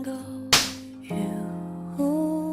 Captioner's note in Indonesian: Suara Pipi ditampar